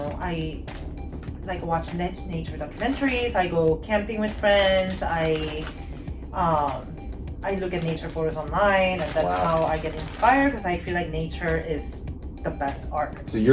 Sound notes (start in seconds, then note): none